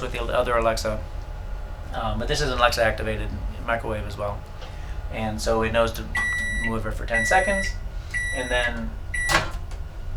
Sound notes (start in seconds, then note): 6.2 beep sound